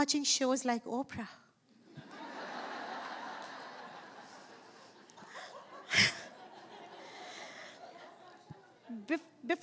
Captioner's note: laughing